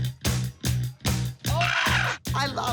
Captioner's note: screeches